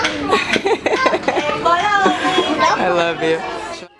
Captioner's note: laughter